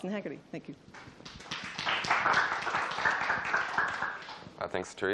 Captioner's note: applause